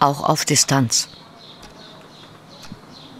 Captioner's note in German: Vogelzwitschern